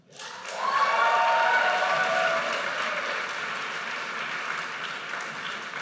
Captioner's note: audience cheers and applauds